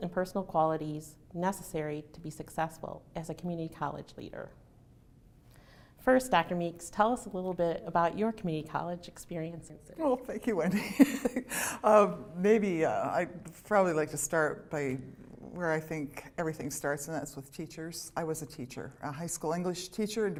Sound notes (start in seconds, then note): 10.6 laughter